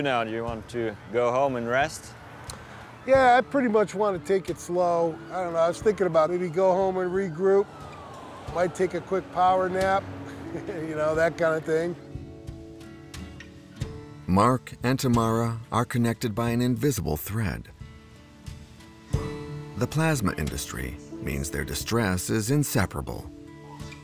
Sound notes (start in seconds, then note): 10.2 chuckles